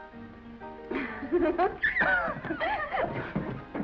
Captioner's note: Esther laughs